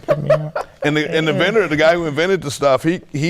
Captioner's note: laughing